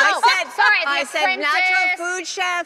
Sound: overlapping shouting

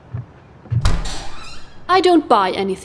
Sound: door opens

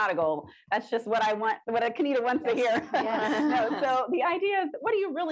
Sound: laughs

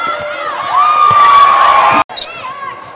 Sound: cheering and applause

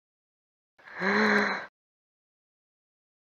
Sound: gasp

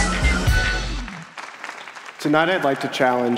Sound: applause

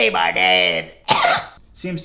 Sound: coughs

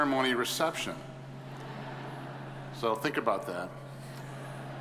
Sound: audience chuckles

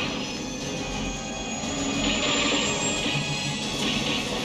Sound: gunshots

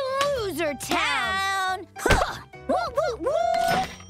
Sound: both whooing!

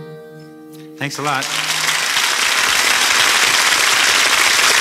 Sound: audience applauds

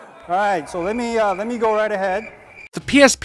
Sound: crickets

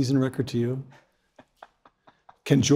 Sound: laugh

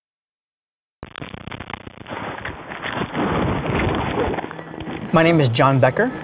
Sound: video static

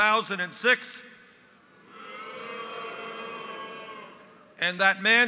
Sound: crowd booing

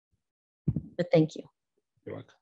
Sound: chuckling

